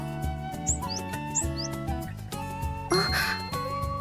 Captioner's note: peep, peep